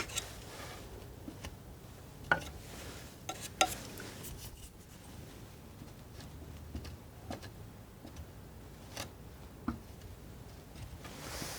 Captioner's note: scratching